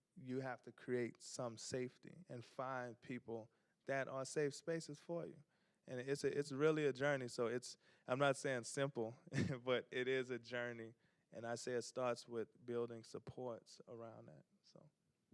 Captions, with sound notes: You have to create some safety, and find people that are safe spaces for you. And, it's-- it's really a journey, so it's-- I'm not saying simple, (chuckles) but it is a journey. And, I say it starts with building supports around that, so...